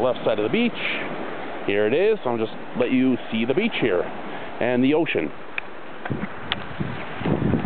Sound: water heard in background

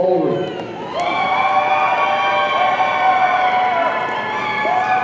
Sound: audience cheering

